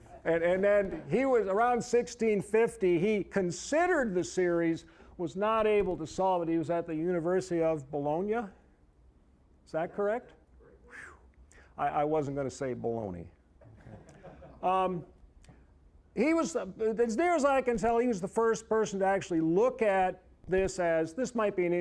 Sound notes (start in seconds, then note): 13.6 audience chuckling